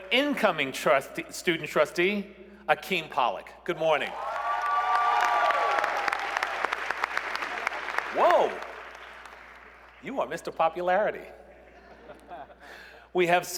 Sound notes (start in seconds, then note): 4.0 cheers and applause